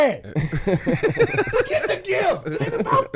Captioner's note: laughing